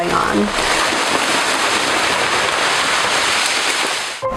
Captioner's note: air whooshing